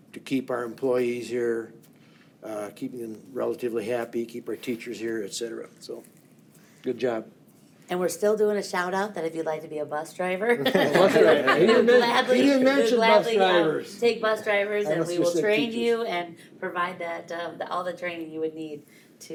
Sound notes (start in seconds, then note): 10.5 board members laugh